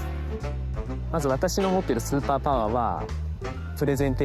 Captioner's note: speaking japanese